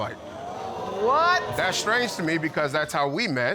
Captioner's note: audience exclaiming